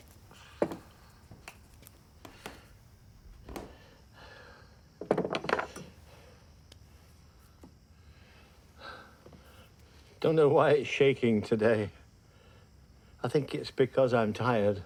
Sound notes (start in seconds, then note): 3.6 Jim sighs